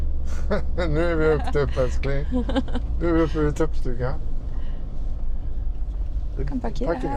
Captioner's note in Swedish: skratt